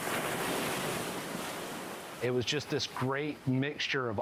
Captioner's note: waves rushing